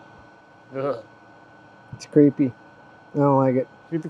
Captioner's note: scoffs